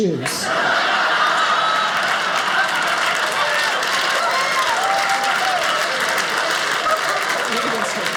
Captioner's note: audience applauding